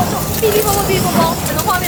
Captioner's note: crackle, pop, sizzle